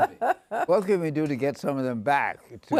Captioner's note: laughing